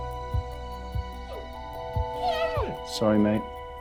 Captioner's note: Rosco whines